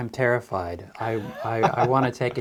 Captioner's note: laughing